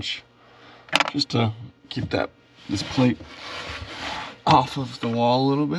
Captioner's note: bushing clattering